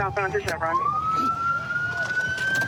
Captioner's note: sirens